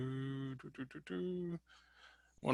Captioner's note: humming